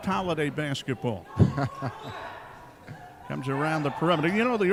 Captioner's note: chuckling